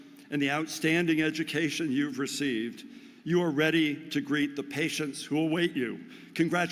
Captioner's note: none